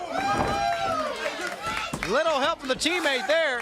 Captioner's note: crowd cheering